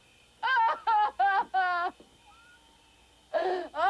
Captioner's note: Claudie wailing